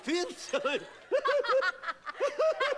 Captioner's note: laughing